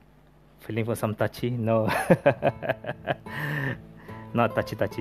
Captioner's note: laughs